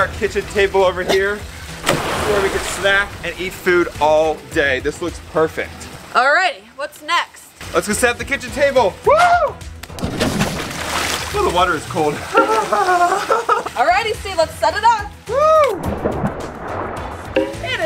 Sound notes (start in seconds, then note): 0.0 water splashing; 9.8 water splashing; 12.3 giggles